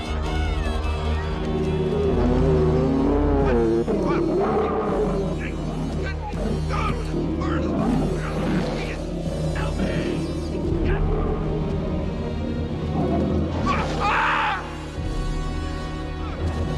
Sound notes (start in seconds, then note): 0.3 moves to deep tense music; 2.4 Pa Weaver yelling; 2.4 bear roaring; 13.6 screaming